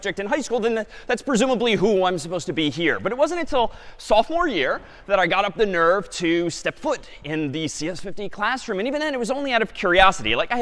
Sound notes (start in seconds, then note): none